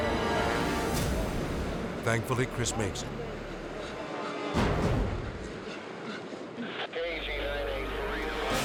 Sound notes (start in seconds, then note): 3.3 panting; 6.7 radio chattering